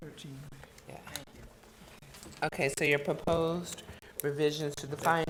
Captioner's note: board chatting quietly